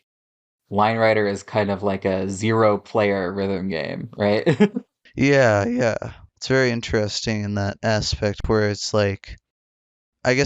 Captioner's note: laughs